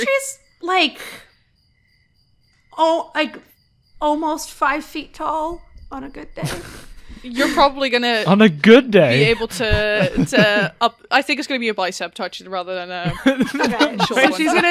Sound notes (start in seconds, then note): 6.4 laughter; 13.0 laughter